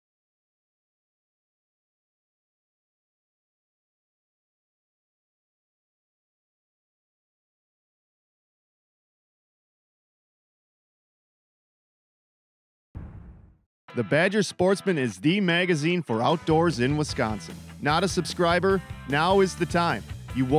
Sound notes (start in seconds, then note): 14.0 voiceover